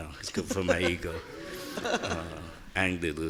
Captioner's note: laughing